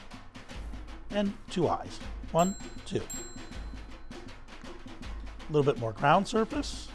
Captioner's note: bell dings